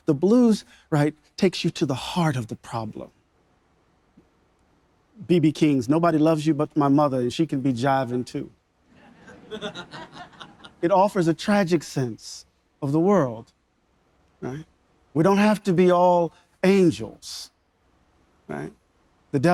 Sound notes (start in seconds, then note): 9.0 audience members laughing